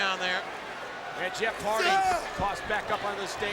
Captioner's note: Rob grunting